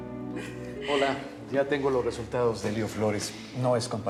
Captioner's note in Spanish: risas